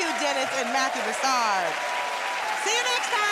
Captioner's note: cheers and applause